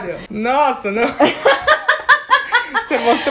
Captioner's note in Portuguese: risos